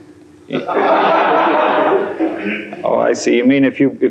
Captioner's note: laughter